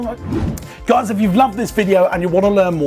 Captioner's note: whoosh